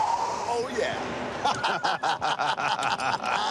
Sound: laughter

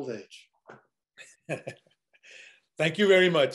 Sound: chuckles

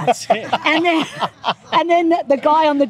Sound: laughing

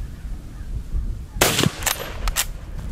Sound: gun fires

